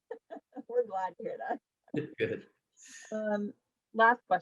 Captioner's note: laughs